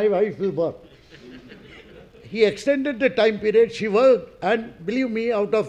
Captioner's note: laugh